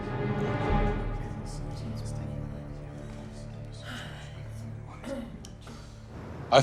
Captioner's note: audience murmuring; suspenseful music